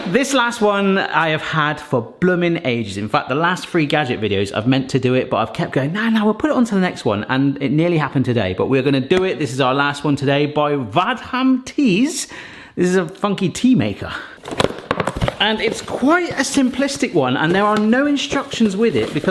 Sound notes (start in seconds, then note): 14.4 box rustling